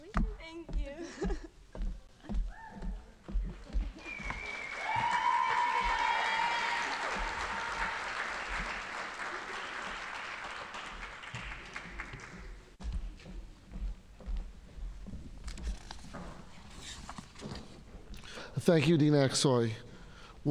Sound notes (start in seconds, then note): 3.9 audience applauding